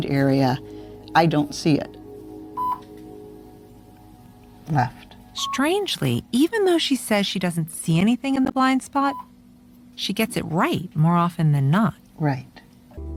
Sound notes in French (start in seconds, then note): 2.6 la machine émet un bip